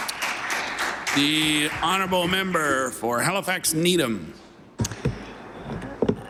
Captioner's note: some Applause